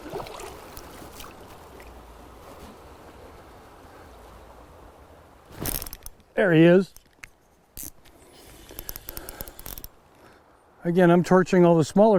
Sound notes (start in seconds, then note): 4.8 splashing; 7.1 reel spinning